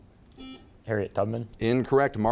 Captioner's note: buzzer beeping